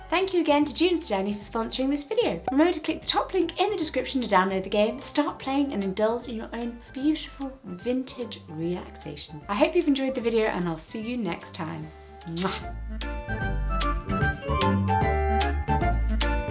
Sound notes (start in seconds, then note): 12.6 lips smacking; 13.8 playful music